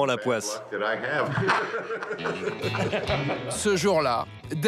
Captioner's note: laughs